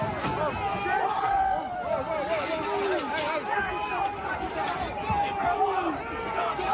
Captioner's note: chanting